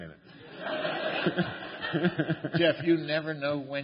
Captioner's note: laughter